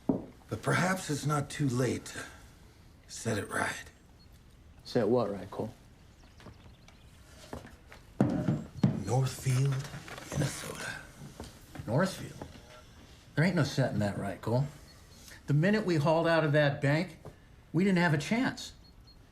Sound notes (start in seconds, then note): none